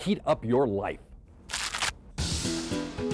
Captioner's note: crunching; happy music